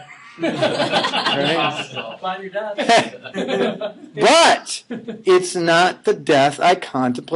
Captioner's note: laughing